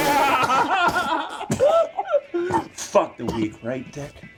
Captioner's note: laughs; coughs